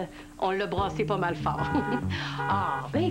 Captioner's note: Rire